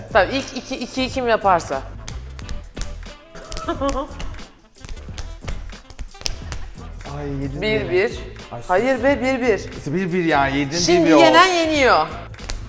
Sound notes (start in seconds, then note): 3.2 laughs